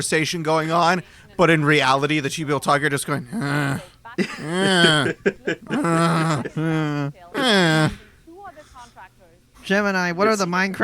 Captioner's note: comedic grunting